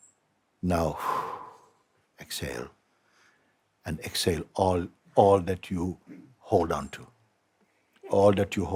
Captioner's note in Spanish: exhala